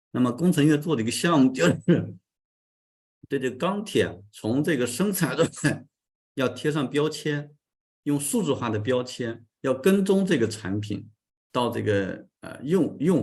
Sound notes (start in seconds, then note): 5.8 continues to speak in Chinese